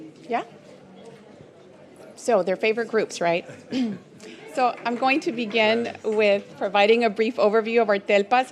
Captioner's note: clears throat